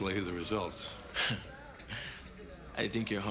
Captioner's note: laughs